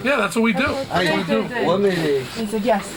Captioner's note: non-english speech